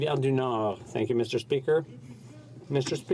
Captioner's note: speaking French